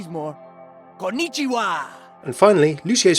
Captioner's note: foreign language